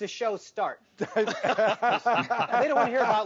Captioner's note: all laughing